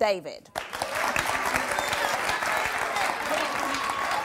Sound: audience claps

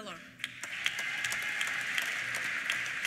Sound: applause; cheers

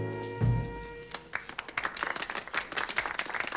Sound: applauding

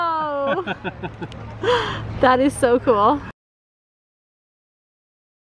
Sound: chuckling

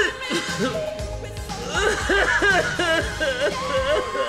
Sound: sobbing

